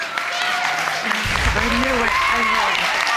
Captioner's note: audience cheering